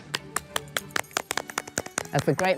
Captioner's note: women clapping